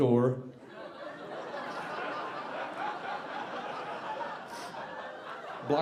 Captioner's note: audience laughing